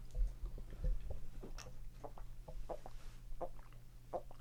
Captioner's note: gulping